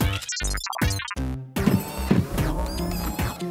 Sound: beeps

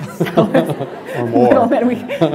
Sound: laughter

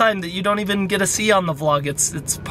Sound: none

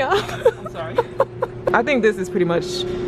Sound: laughs

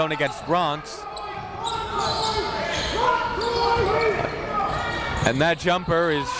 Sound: coaches yelling; crowd talking

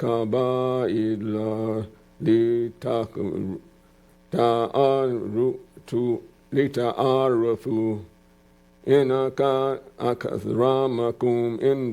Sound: speaking in arabic

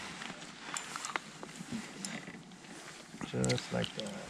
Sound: reel cranking

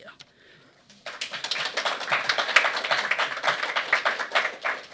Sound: applause

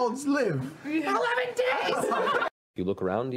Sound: laughing

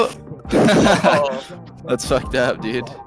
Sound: all laugh

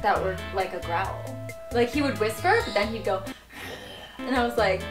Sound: growls

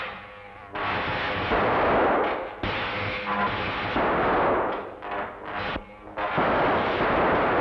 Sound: electricity zapping; guns firing

